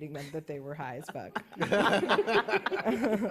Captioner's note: laughter